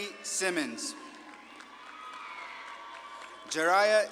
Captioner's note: audience claps and cheers